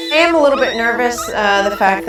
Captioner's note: puppy whining